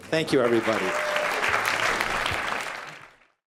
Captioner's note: applause